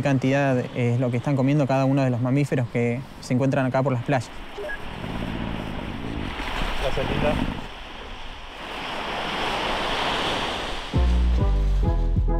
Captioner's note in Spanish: Olas de mar